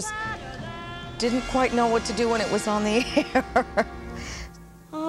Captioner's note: laughs